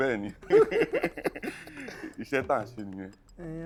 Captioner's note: laughs